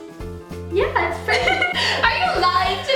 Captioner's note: laughter